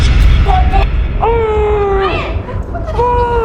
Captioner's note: Ryan yelling